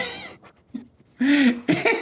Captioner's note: laughs